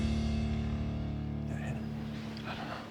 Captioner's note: whispering